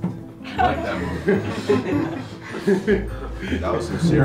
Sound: laughter

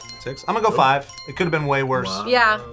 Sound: bell chimes

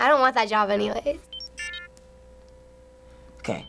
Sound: beep

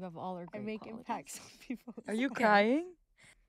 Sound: laughing

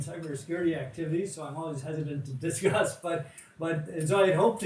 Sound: chuckles

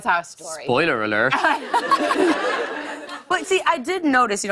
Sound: laughter

